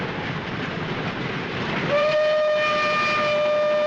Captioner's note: whistle blows